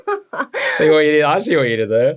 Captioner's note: laughing